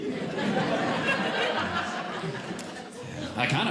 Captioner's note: audience Laughing